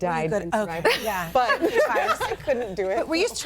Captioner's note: laughs